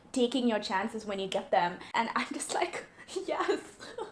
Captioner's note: sobs